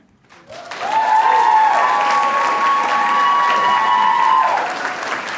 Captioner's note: audience cheering and applauding